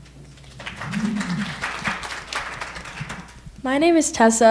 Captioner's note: audience applauding